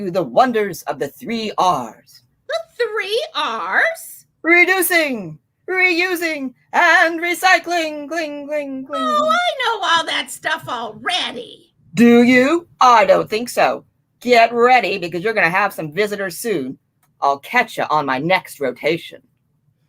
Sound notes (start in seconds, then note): 6.5 echoing